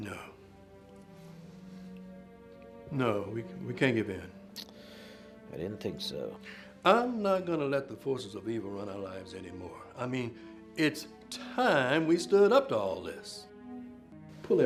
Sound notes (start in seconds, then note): 4.8 scoffs